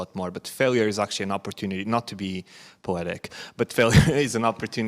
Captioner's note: chuckles